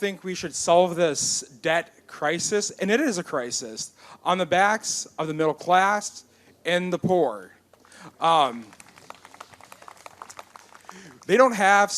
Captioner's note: applause